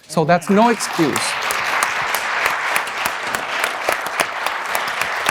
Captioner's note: audience applauding